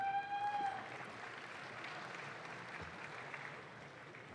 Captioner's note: audience claps